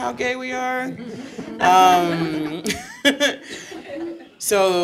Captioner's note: audience chuckling